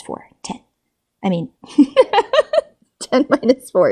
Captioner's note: laughs